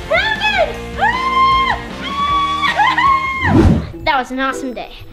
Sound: mom screaming

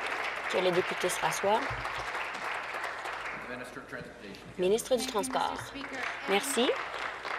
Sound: applause

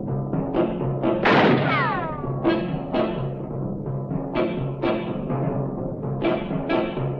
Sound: foreboding music continues; gun firing

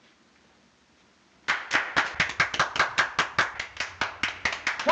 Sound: applauding

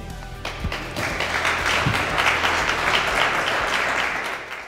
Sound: audience clapping

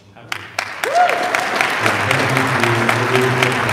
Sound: audience applauding

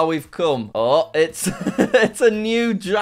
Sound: laughs

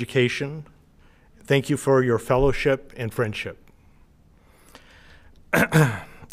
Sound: coughs

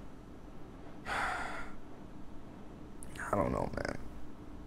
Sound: Rayleigh sighs

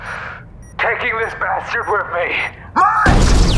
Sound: over Comms

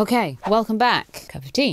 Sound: swoosh

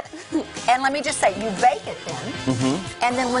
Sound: laughter

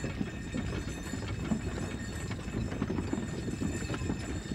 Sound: wagon bells jingling

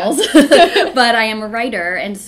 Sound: laughs

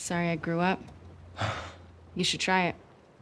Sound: scoffs

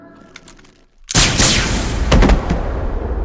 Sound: two shots

